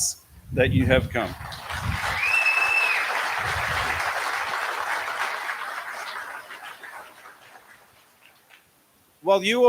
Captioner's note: applause